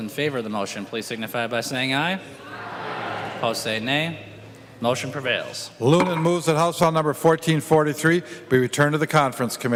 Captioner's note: chorus of ayes